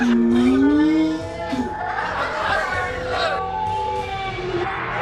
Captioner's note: crowd laughing and distortion; more reversed audio